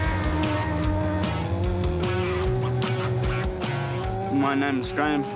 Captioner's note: rock music; engine revs